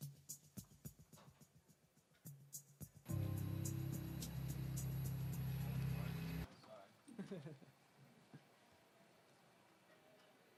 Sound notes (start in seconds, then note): 0.2 dramatic music; 7.1 laughing